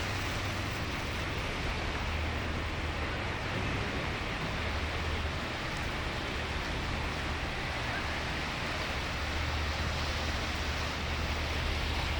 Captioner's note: water rushing